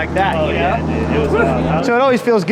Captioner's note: exhales